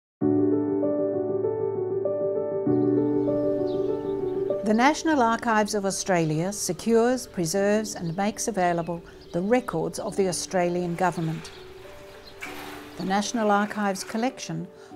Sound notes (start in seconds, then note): 0.1 bright piano music; 3.1 birds chirp